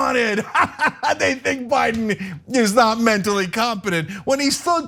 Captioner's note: laugh